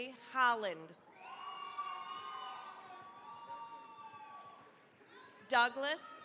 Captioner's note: cheering, applause